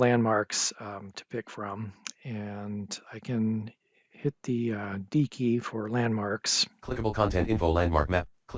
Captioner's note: NVDA screenreader